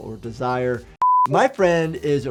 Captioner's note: beeps